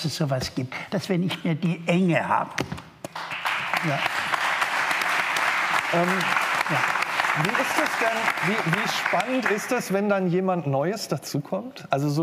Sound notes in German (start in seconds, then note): 3.5 Applaus